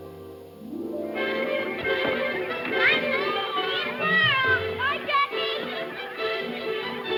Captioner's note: cheerful music; children yelling